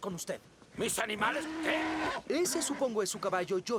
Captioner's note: horse moans